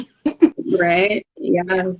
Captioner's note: laughing